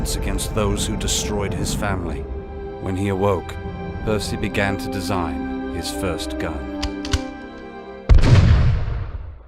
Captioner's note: gunshot